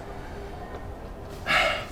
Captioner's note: sighs